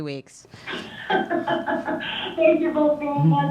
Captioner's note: laughs